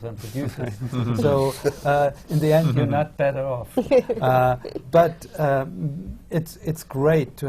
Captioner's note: laughter from the panel